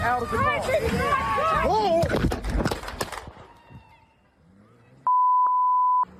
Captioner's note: screaming